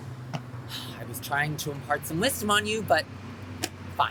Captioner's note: sighs